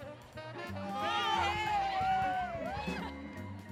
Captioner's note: cheering